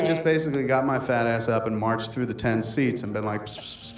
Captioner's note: whispering noise